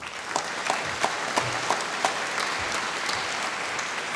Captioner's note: applause